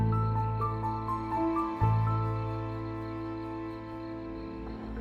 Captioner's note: insects chirping; tense music